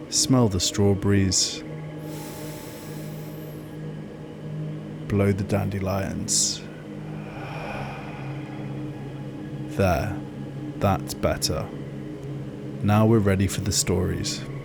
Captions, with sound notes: Smell the strawberries… [inhale] Blow the dandelions… [exhale] There. That’s better. Now we’re ready for the stories. ⸻ 1.